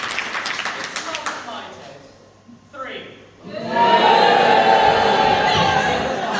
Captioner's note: audience boo